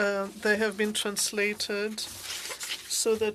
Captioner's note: speaking French